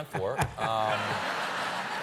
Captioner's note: laughter